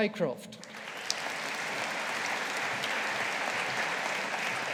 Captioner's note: audience applauding